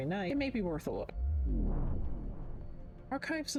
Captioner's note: vwoom